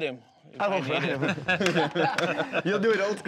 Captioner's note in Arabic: يضحك، يصفق